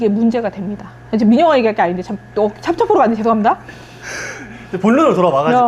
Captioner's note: laughs